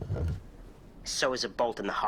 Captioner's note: door opening